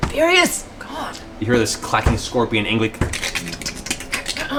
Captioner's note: scorpion sounds